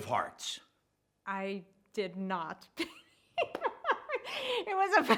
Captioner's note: laughs